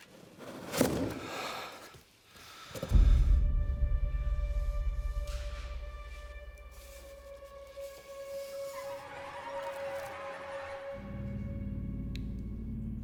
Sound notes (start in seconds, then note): 1.4 Danny sighs; 3.2 light dramatic music continues; 8.9 eerie music